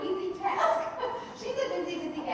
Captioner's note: laughing